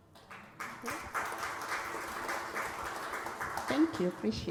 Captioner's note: applause